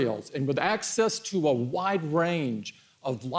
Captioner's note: none